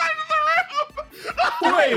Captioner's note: laugh